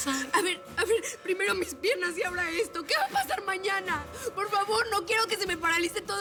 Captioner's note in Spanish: sollozos